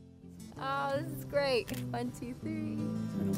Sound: camera shutters

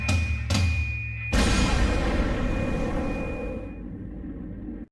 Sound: explosion

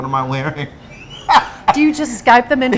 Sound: laughing

